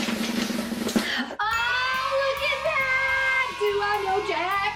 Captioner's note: drum roll; children cheering sound